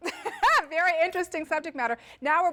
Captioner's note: laugh